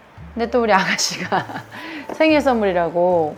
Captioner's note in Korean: 웃음